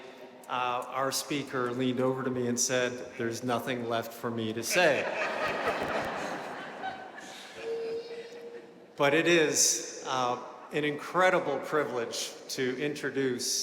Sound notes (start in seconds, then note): 4.7 audience laughing